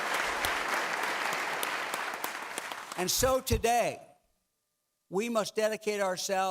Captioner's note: clapping